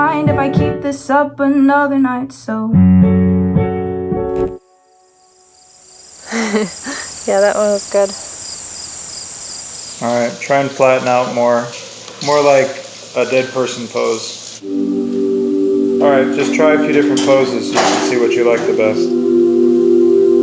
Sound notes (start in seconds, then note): 6.2 laughs